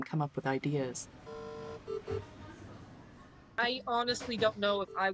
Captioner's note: CPR beeps